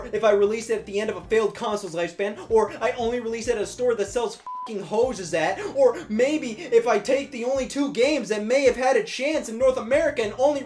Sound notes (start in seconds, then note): 4.4 beeps